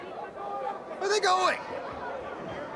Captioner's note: crowd chatter